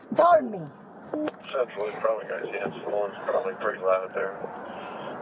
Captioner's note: radio chatter